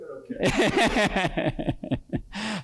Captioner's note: laughter